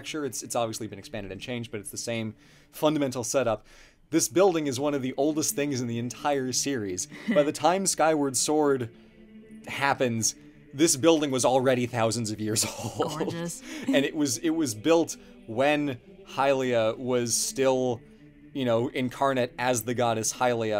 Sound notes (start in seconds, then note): 12.6 laughs